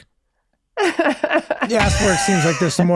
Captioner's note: laughing